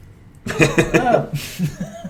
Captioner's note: laughter